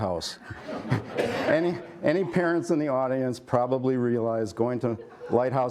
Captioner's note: laughter